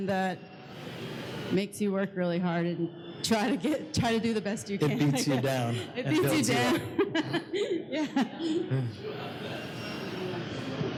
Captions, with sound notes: that makes you work really hard, and try to do the best you can. - It beats you down. - It beats you down. (laughs) Yeah.